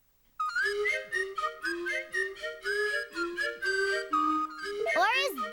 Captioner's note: whistling